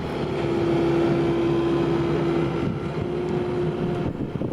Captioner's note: engine roaring